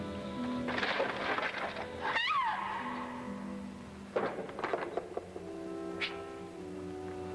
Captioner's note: wood clunking; Joan screams